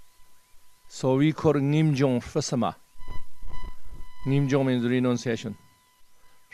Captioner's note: tibetan